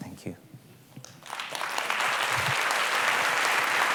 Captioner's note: applause